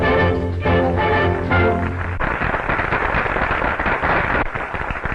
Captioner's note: applause